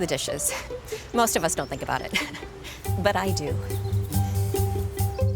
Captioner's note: chuckling; bright music continues